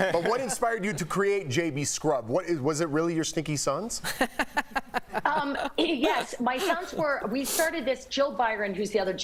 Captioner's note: laughter